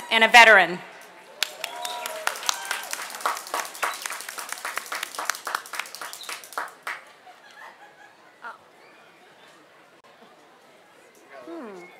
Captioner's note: applause